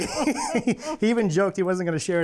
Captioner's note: laughing